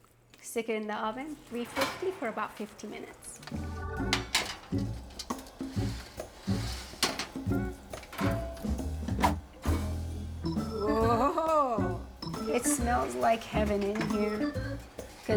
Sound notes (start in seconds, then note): 3.5 upbeat music; 4.9 tray whirring